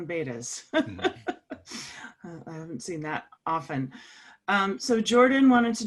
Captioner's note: laugh